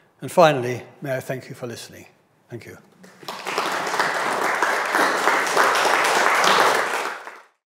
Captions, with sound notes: And finally, may I thank you for listening. Thank you. (audience applauds)